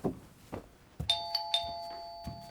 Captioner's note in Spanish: suena el timbre